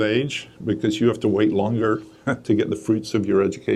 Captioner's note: chuckles